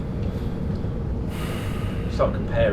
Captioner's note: sighs